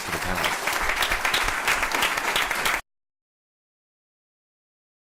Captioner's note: applause